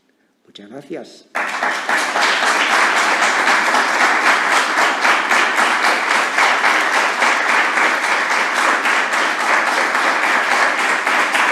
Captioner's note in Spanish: aplausos